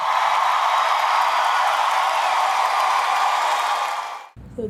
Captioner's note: audience cheers